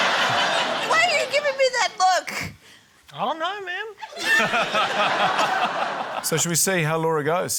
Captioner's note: laughter; laughter